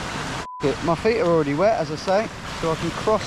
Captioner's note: beep